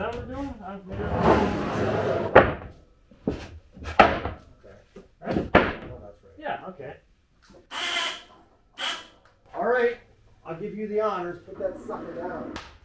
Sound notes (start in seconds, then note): 8.8 machine buzzing